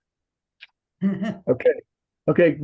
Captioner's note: person chuckles